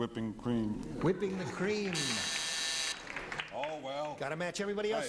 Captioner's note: buzzing